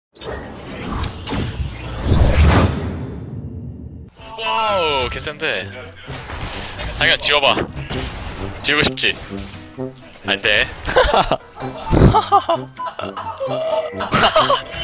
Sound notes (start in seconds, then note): 11.6 fake laugh